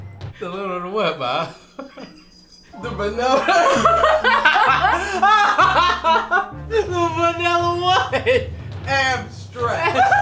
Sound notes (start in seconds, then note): 1.4 chuckles; 3.1 laughs; 3.3 everyone laughs; 9.8 laughing